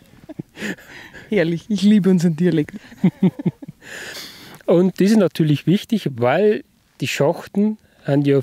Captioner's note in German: lacht